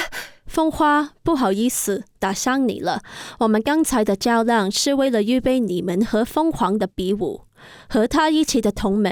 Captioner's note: in Mandarin